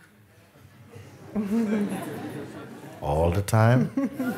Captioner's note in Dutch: gelach